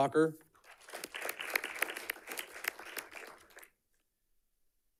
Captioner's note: audience clapping